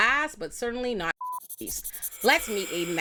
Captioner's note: beep